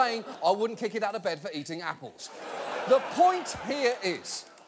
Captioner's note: audience laughing